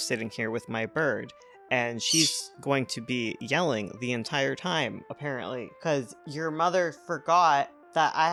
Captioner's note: parrot squawks; parrot intensifies